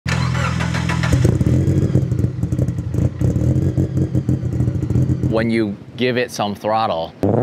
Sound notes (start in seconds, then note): 0.0 car engine revving; 0.0 car engine sputtering; 7.2 car engine revving